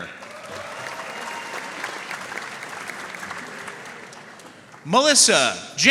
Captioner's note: audience cheering and applauding